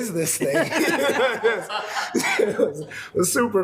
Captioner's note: attendees laughing